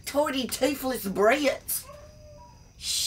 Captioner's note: dog howling